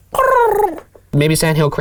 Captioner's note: cooing